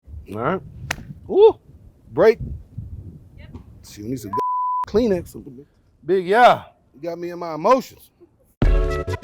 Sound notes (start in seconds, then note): 4.3 beep